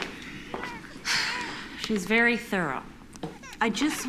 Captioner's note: sighs